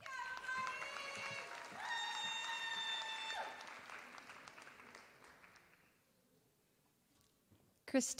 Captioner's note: applause